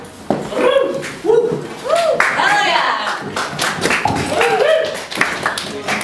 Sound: audience cheering and clapping

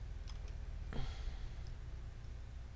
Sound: sigh

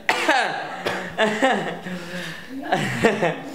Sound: coughing; coughing, a bit laughing; laughter slowly stopping

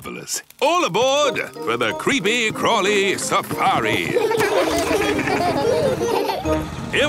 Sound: laughing

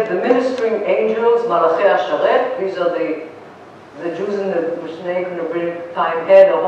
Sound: non-english

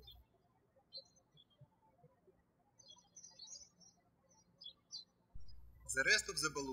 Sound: birds chirping

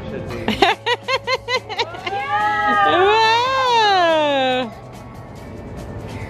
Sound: laughing; family wowing

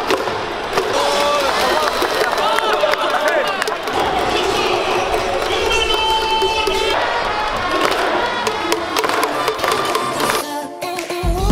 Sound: fans cheering and music playing

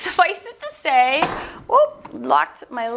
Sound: thud

